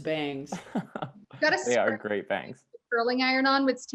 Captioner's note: chuckles